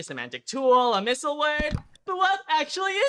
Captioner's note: click